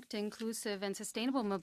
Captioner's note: speaking French